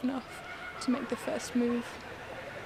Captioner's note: birds calling